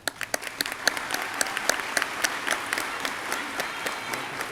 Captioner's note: audience clapping